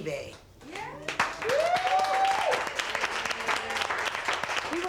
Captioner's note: crowd clapping; crowd cheering